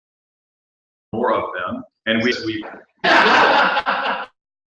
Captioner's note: laugh